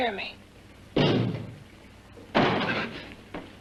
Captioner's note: knocks twice